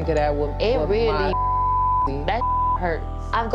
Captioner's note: beep